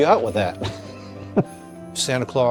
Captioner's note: laughing